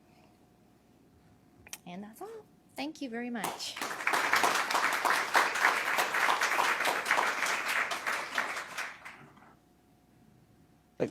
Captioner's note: applause